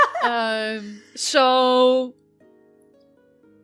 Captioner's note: laughter